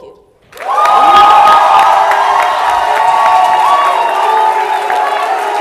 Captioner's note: loud applause and cheering